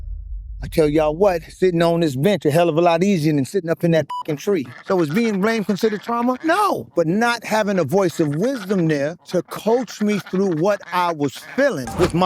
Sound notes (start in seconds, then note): 4.1 beep